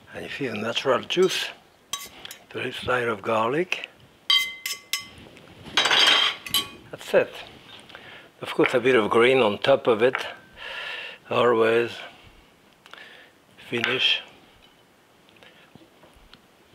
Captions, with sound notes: And you see the natural juice, the little slice of garlic. (fork scraping) (pan clattering) That's it. Of course, a bit of green on top of it, always finish.